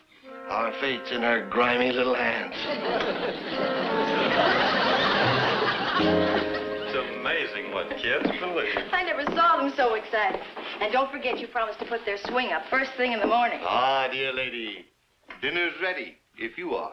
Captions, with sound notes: Our fate's in her grimy little hands. (audience laughs) - It's amazing what kids believe. - I never saw them so excited. And don't forget, you promised to put their swing up first thing in the morning. - Ah, dear lady, dinner's ready if you are.